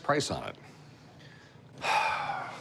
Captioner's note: sighs